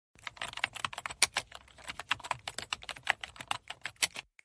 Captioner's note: keyboard typing